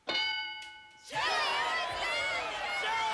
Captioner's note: yelling